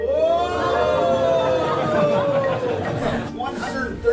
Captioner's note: crowd cheering